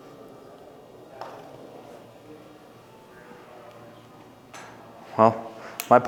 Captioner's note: tapping sound